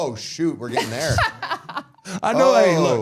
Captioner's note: Michelle laughs